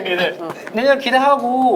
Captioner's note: pow